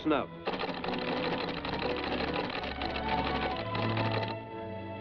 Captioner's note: teletype clacking